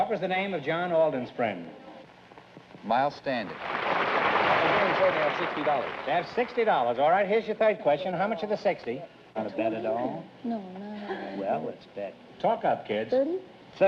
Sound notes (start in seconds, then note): 3.4 applause